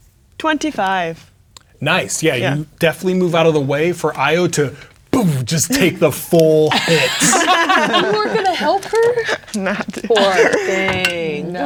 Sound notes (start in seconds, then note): 6.7 players laughing; 10.2 laughing